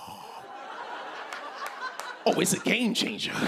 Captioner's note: laughter